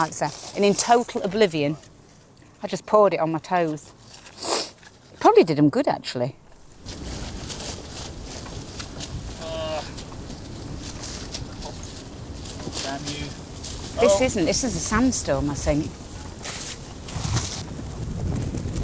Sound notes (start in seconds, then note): 9.2 groaning